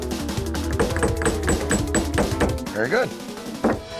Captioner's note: hammering